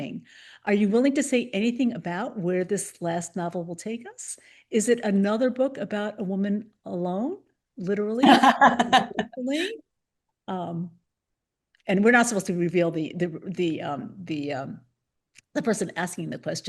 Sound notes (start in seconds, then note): 8.2 laughs